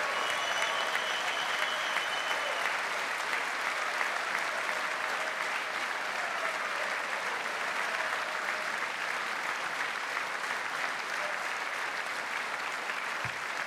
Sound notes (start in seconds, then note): 9.6 cheers